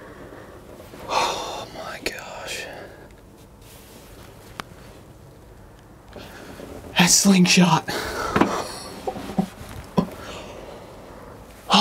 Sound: whispering

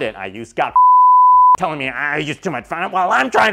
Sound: beep

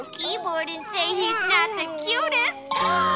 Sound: gasping

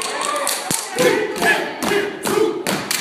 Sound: chanting

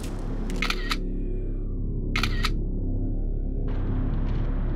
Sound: camera snapping

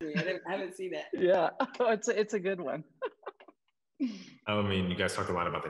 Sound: laughs

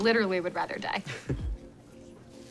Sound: chuckles

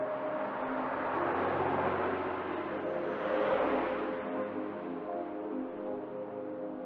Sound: traffic sounds

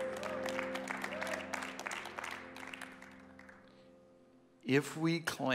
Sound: congregation applauds

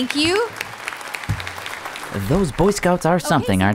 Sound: applause

